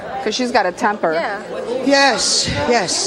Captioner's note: audience murmuring